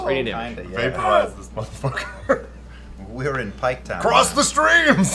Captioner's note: laughs; laughter